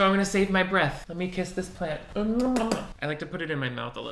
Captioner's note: kissing